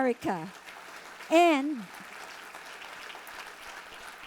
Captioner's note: audience applauding